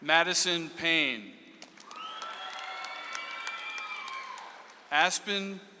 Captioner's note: audience applauds